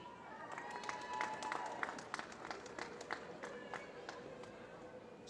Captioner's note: applause